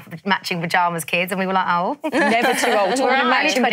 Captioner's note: laughs